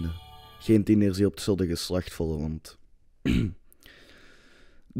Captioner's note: cough